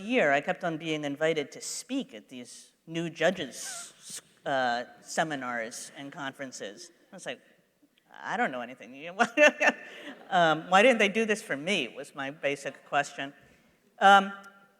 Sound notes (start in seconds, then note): 9.5 laughs